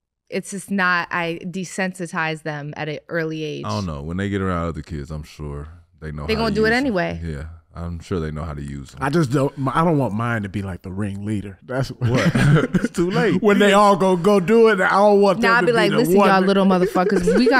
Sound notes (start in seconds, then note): 11.8 all laughing